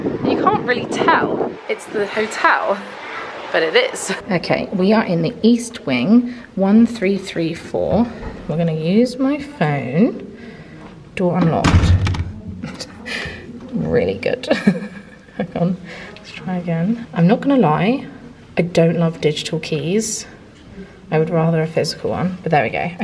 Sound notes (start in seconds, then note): 11.4 door handle clanking; 13.4 exhales